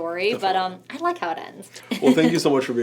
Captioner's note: laughs